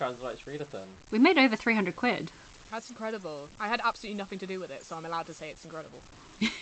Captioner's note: laughs